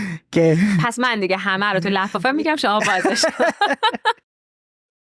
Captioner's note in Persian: خنده